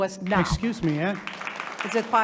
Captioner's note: audience applauding